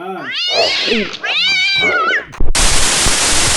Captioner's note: meows